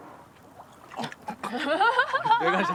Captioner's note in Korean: 다같이 웃음 소리